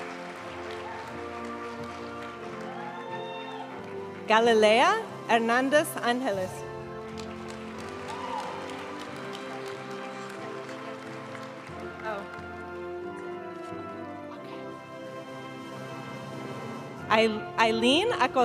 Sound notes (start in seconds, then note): 0.0 audience cheering and applauding; 0.3 graduation music; 7.0 audience cheering and applauding; 10.2 graduation music